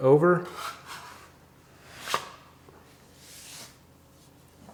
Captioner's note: scraper scrapes